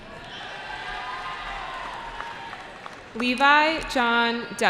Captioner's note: cheering